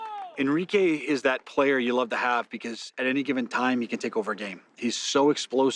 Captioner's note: spectators cheering